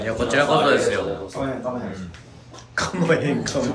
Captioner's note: Kansai accent